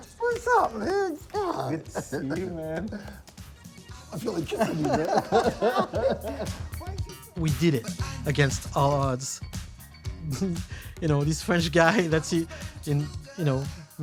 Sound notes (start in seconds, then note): 4.1 both laugh; 10.2 chuckles